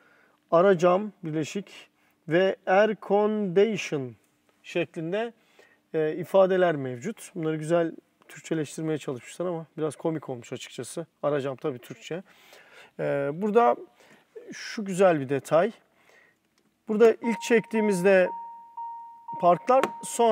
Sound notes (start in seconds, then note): 3.2 air conditioning